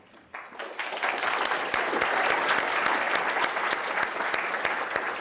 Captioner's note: audience applauds